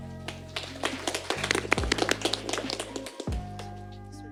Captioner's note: applause